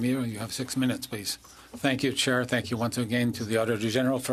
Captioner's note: speaking French